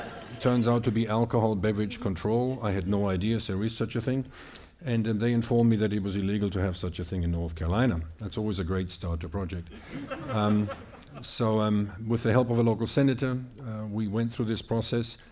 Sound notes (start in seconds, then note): 9.7 audience laughing